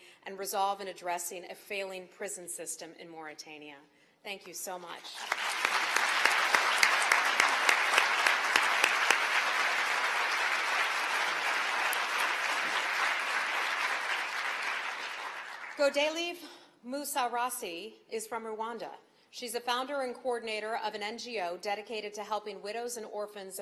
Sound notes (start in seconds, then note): 5.0 applause